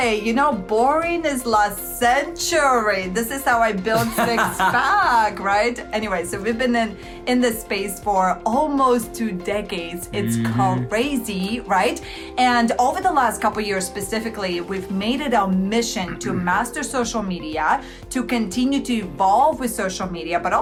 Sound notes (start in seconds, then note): 5.8 laughing